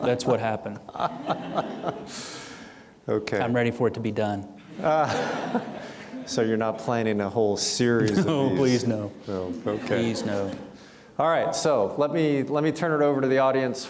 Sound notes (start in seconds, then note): 4.6 audience chuckling